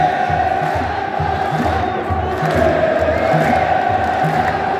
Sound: clap

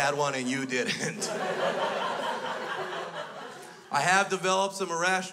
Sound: crowd laughs

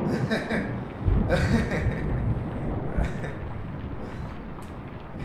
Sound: laughter

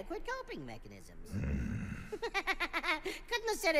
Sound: growls; giggles

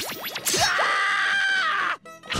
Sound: screaming

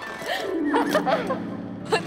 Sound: giggles

